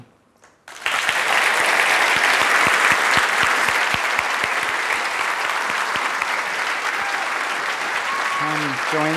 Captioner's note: applause